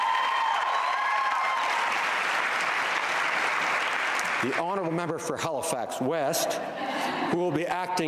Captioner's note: cheering and Applause